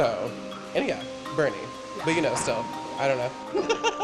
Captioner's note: laughs